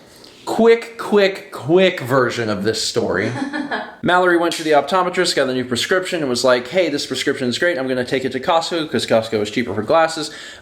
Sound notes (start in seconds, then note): 3.2 chuckles